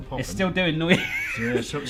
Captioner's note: laughs